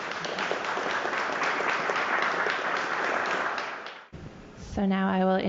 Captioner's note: applause